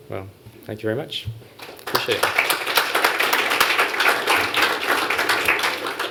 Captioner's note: applause